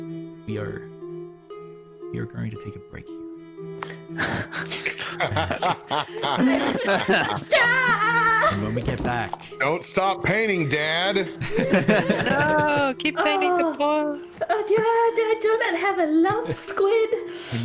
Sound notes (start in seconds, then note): 3.6 cliffhanger frustration noises; 3.9 chortles; 6.2 chuckles; 11.4 all laughter